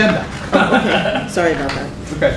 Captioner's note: laughter